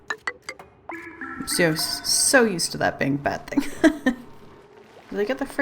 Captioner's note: laughs